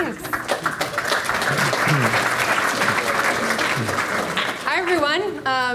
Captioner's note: audience clapping